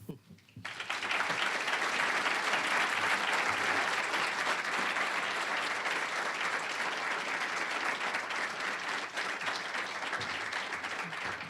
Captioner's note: applause